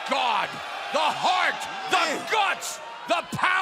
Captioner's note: crowd cheering